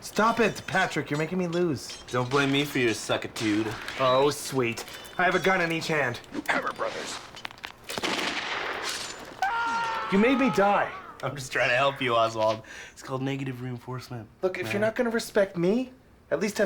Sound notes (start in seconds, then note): 9.4 sword Slash and Screaming